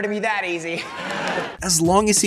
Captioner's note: laughter